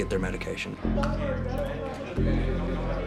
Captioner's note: inmate chatter